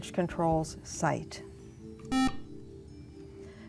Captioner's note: buzzer